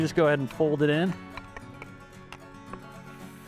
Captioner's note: meat sizzling